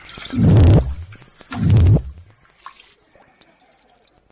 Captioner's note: electronic blip